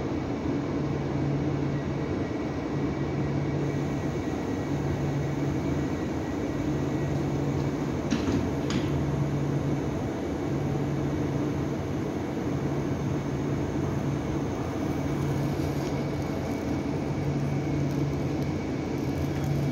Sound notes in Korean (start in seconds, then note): 1.7 출입문 닫힘